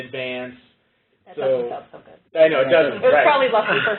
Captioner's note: laughter